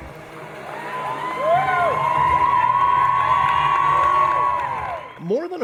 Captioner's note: cheering